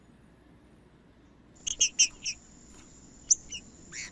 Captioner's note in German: trinca ferro cantando